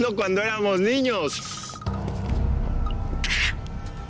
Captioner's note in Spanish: Suena el celular